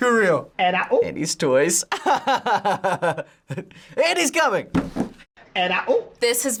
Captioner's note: laughs